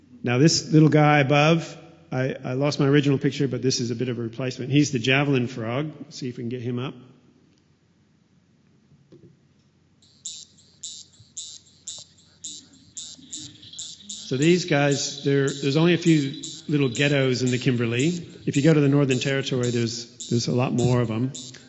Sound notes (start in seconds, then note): 10.0 sound of the Javelin frog calling